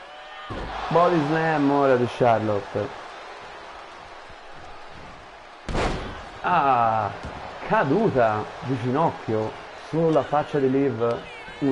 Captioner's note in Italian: Applauso